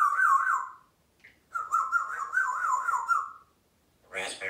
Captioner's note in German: whistling